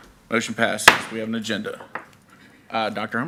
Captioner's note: gavel banging